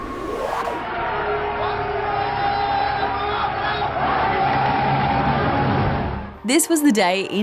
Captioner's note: all cheer